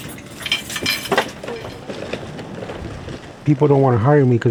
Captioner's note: taking keys out of door; wheelchair rolling